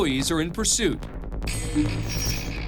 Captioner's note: computer beeps